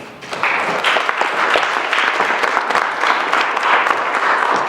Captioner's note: applause